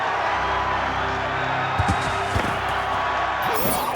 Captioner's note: crowd cheering